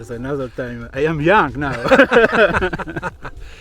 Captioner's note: laughs